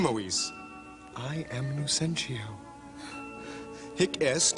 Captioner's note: Sottovoce